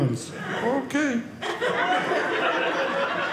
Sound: audience laughing

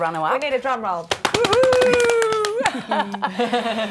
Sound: imitating drum roll by clapping on legs

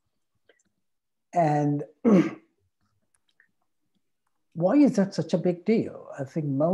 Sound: clears throat

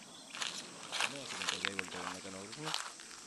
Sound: dry leaves rustling

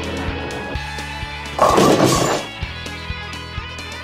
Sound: bowling strike

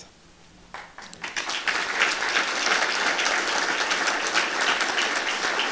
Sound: applause

